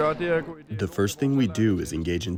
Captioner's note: through translator